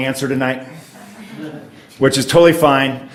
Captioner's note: audience laughs